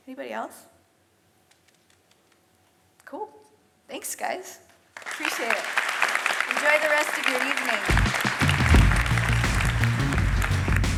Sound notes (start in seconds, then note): 5.0 audience applauds; 7.8 lively music